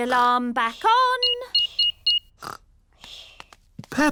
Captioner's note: beeping